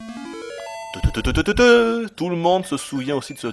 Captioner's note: imitates the sound